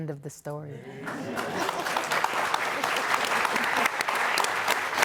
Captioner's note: audience applauding